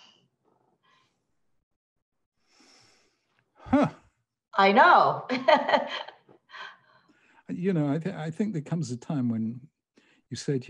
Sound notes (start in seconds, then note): 5.2 laughing